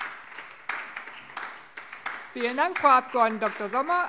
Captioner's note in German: Beifall SPD